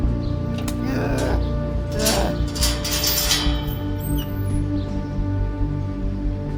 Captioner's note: Miles groans; chain rattling